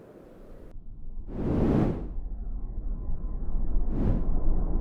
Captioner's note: air swooshes